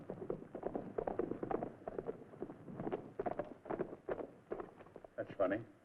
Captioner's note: horses hooves thudding